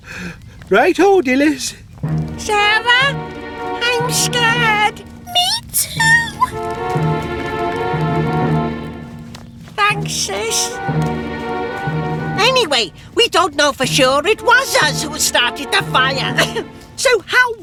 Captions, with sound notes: OH, ALL RIGHT, DILYS. SARAH, I'M SCARED. ME TOO. THANKS, SIS. [ Whispering ] ANYWAY, WE DON'T KNOW FOR SURE IT WAS US WHO STARTED THE FIRE.